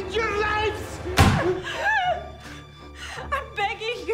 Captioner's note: gun bangs; Deborah whimpers